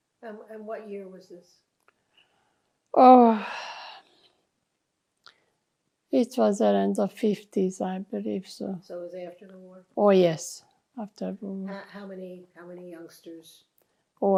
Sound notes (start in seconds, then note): 3.0 sighing